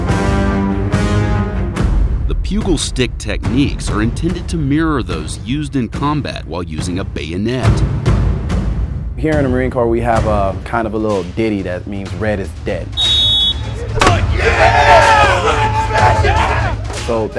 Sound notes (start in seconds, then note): 12.9 whistling; 13.8 cheering